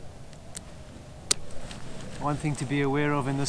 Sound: buckle clicks

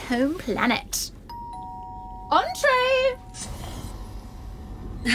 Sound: A door bell-esque tone

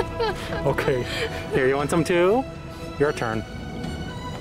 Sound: laughter

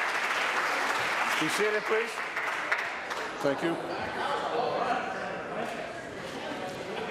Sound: applause

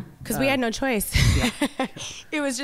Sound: laughing

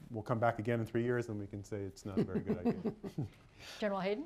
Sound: laughter

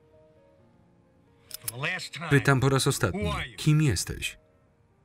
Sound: gun cocks

